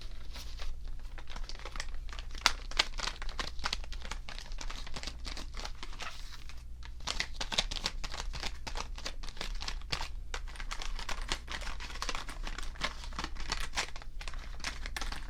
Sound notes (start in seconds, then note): 0.0 ruffling packaging